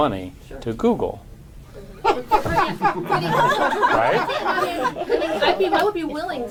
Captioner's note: laughter